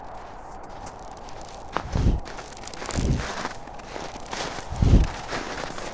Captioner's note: creaking saddle leather & hoof steps